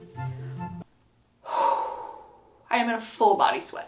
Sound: exhales heavily

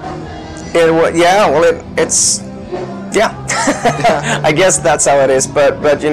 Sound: laughs

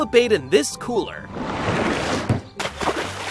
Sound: water moving; splashes

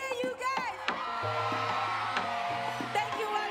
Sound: cheering

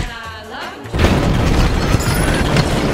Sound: kaboom

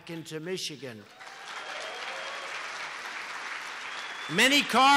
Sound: applause

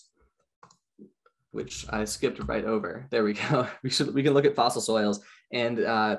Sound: chuckles

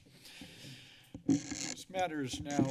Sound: mic noise

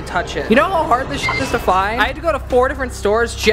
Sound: beep

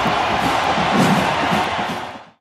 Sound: woosh

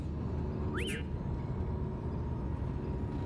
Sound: happy whistle

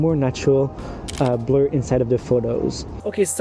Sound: camera clicking

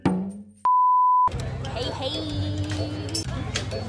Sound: beeping

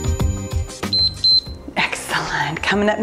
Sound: timer beeps

